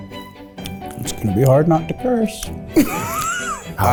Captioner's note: gentle orchestral music; chuckles